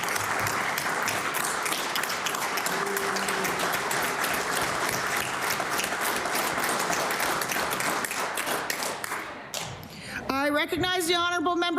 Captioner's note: applause